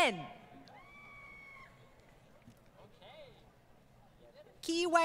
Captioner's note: crowd Cheering